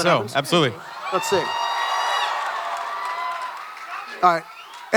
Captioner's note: audience cheering